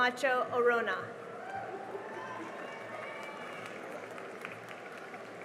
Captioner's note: cheering and applause